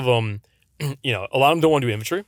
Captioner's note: clears throat